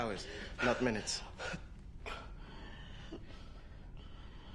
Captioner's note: white gasping